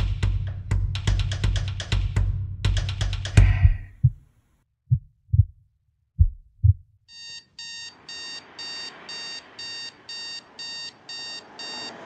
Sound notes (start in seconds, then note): 3.3 rhythmic pulsing resembling a heartbeat; 7.1 alarm ringing